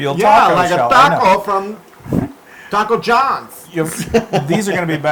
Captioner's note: laugh